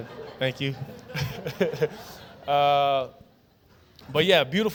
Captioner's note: chuckles; laughter